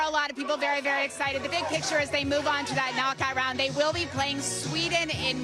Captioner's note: chanting "usa"